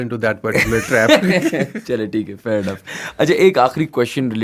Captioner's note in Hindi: हंसी